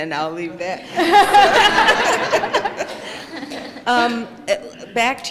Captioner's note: laughter